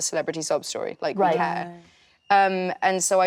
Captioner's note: actresses reacting